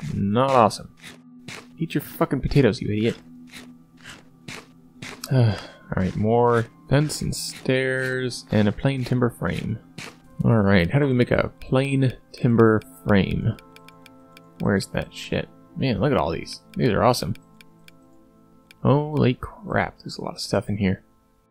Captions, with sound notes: Mmmm, not awesome. Eat your f***** potatoes, you idiot! [munching] Uhhgg, alright more fence and stairs, and a plain timber frame. Alright, how do we make a plain timber frame? Where's that shit? Man, look at all these, these are awesome! Holy crap there's a lot of stuff in here.